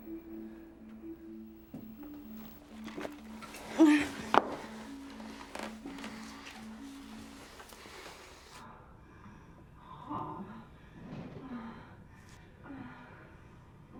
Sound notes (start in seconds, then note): 1.7 coat clatters; 3.5 Becky moans; 8.9 heavy panting and moaning in the distance